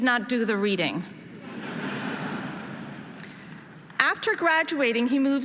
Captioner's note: audience laughing